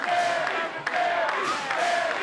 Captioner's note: fans chanting